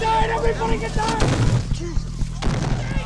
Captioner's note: bomb explodes